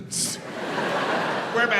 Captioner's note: audience laughs